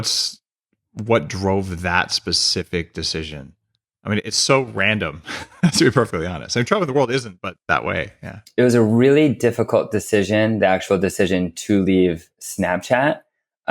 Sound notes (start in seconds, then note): 5.2 laughs